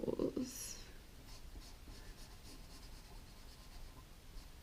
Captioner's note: pen scratching